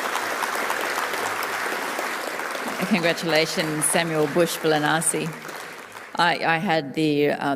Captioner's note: applause